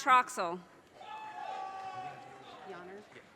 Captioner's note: audience cheers and applause